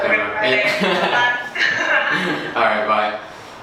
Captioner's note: laughs